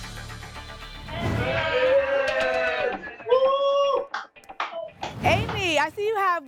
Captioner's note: cheering